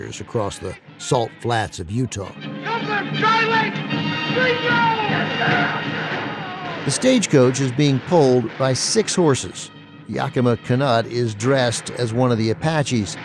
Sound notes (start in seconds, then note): 2.5 man yelling